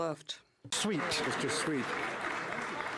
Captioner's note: speaking French